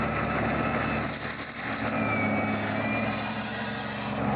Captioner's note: roaring of large machinery